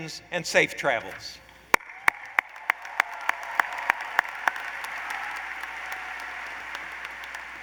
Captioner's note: applause